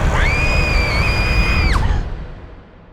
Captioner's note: girl screams